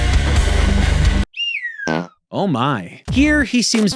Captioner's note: suspenseful electric guitar music; whistles and farts